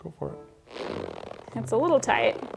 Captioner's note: comical squelching